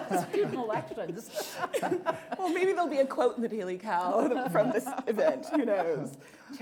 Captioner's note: laughter